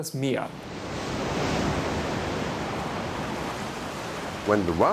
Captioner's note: waves crash